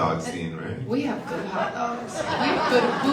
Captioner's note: audience laughs